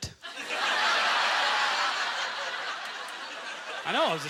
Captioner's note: audience laughter